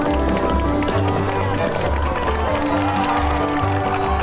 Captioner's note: crowd cheering; gentle upbeat music